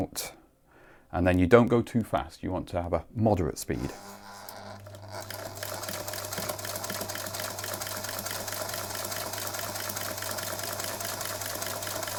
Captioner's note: sewing machine running